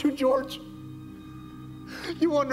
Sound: sobbing softly

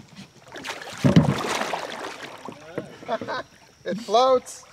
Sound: splashing

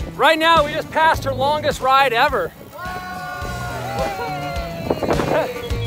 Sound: cheering

